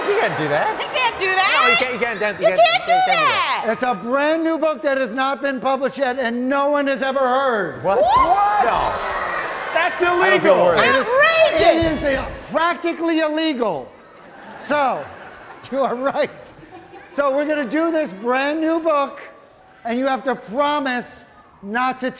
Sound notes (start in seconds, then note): 7.8 audience exclaims